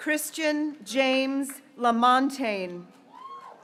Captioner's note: graduates cheering